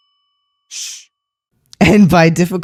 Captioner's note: ”shh” sound effect